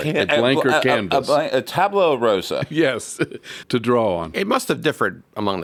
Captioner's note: laugh